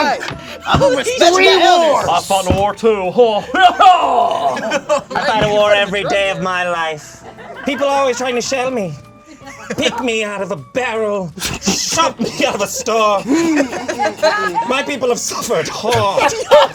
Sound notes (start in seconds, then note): 13.3 group laughs